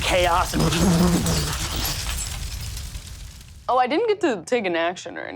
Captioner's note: imitates rumbling